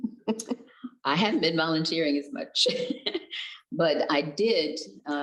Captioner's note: chuckles; giggles